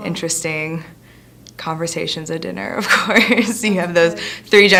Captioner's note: laughs